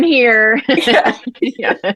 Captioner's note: laughter